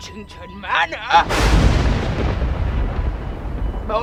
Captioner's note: thunder cracks